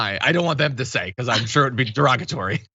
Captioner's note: laugh